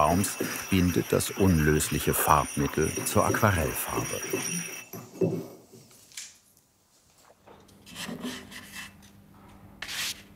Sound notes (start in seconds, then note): none